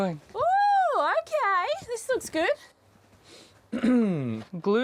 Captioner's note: clears throat